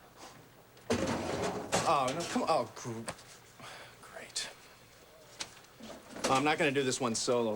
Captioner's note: scoffs